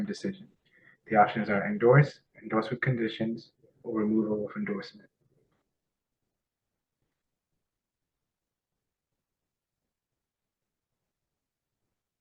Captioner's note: pause